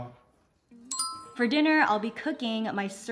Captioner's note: Appa speaking Korean; bell chimes